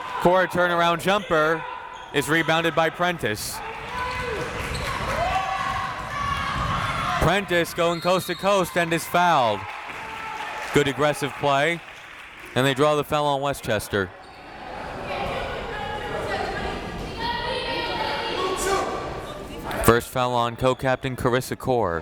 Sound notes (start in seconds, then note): 4.0 crowd members shouting; 7.8 whistle tweeting; 17.6 crowd members shouting